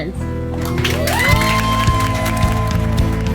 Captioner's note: applause and cheers